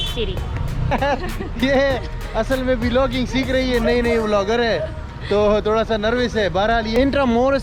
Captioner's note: laughing